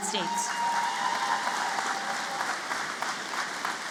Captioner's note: applause